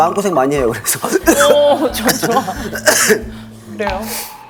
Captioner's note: cough, cough!; tearing up